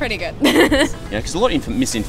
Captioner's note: laughing